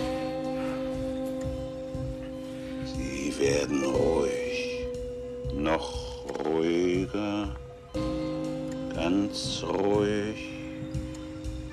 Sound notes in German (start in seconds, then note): 3.0 monotone Stimme